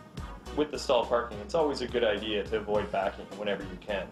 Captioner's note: voiceover